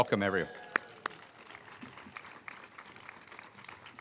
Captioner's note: all applauding